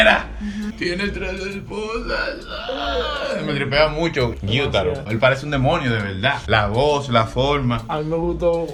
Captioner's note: Trying to imitate Gyutaro